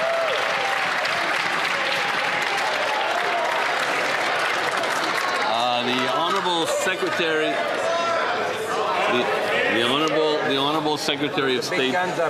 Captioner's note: some Applause